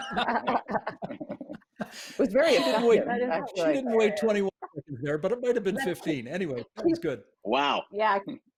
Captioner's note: laughter